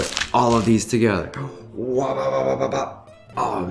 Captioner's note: vocalizes